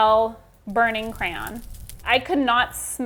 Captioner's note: flames crackling